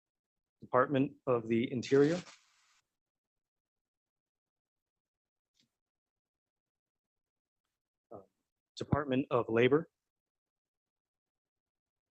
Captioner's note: A pause